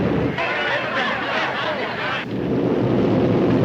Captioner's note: crowd chattering; airplanes buzzing